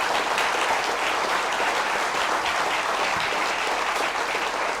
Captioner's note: applause